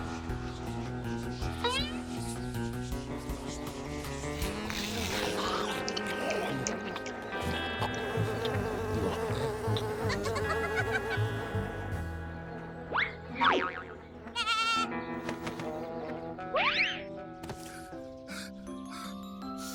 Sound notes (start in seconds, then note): 7.3 buzzing; 9.9 giggling; 17.6 gasping